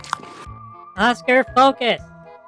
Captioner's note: interrupting, frustrated